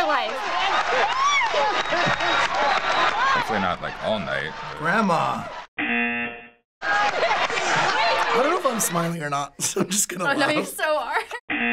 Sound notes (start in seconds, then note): 0.3 host laughing; 5.6 buzzer; 11.5 buzzer